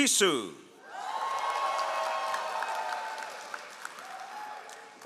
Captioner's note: all applauding